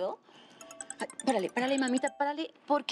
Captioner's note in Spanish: Suena un celular